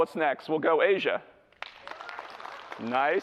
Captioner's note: clapping